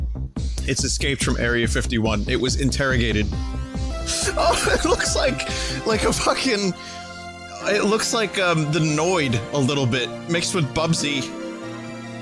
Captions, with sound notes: It's escaped from Area 51. It was interrogated. (Laughing) Oh, it looks like... It looks like a fucking Uhm, it looks like, the Noid... a little bit, mixed with Bubsy.